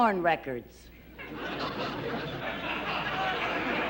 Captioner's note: laughter